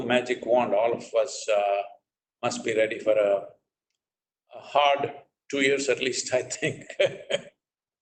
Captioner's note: laughs